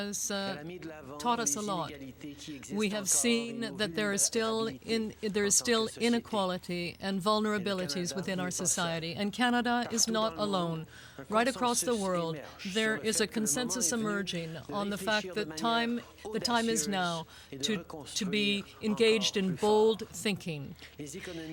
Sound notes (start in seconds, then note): 1.0 speaking French